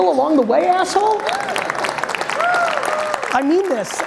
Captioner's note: audience applauds